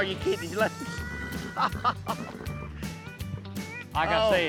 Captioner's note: laughs